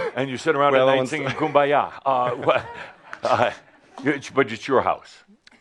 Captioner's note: a few chuckles